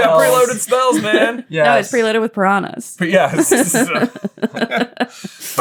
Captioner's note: laughing